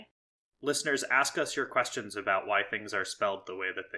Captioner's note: none